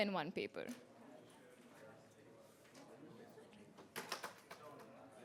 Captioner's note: chatter